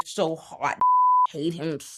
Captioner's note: beep